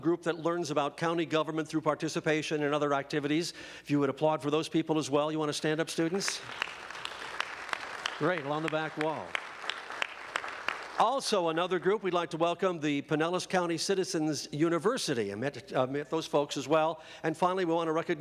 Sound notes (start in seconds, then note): 6.2 applause